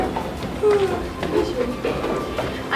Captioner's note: yawn